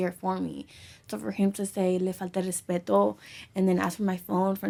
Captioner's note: speaks in foreign language